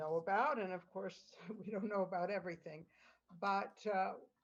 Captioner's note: laughter